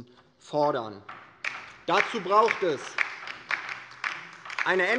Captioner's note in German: Beifall bei der LINKEN